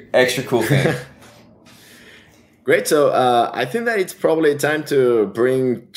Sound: laughs

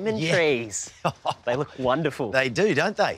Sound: laughs

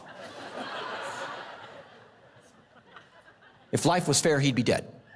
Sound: congregation laughing

